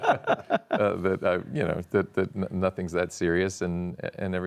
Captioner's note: laughs